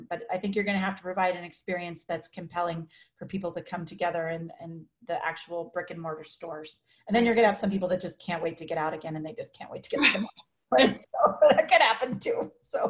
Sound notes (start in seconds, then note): 10.0 laughs; 12.4 laughs